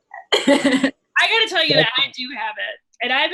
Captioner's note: laughs